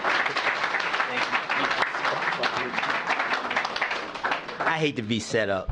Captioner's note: applause